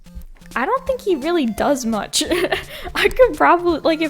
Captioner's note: laughs